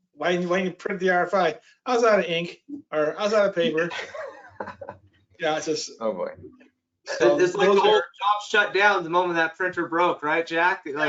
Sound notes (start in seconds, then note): 3.4 panelists laughing